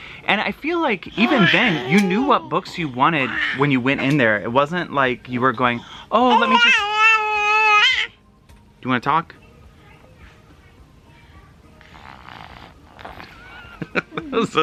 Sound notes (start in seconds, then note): 6.2 babbles; 11.3 babbles